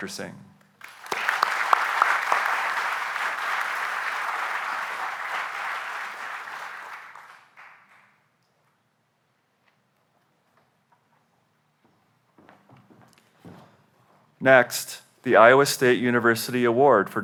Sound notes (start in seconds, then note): 0.8 applause